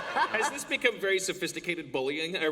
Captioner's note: laughter